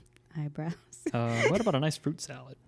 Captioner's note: laughs